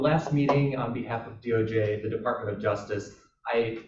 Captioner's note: chuckle